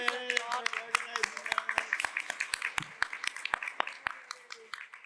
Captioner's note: applause